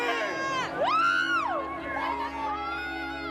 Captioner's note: cheering